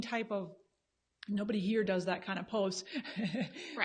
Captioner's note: laughs